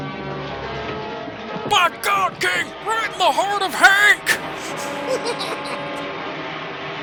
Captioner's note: as Jim Ross; snickers